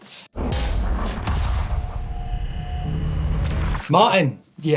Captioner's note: digital buzzing